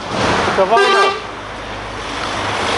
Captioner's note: truck horns